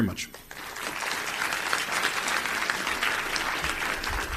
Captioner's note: applause